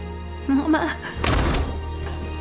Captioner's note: door shuts